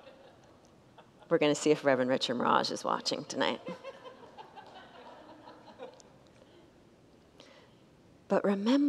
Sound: congregants laugh

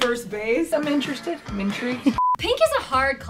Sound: beep

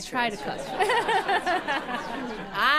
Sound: laughter

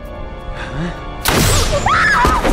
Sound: gasping; gun shooting

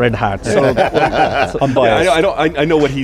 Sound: laughter

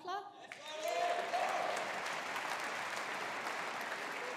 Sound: audience applauding

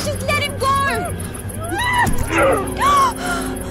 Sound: screaming; frightened gasp

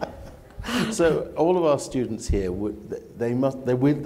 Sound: laughter

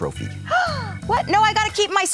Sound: Meredith gasps

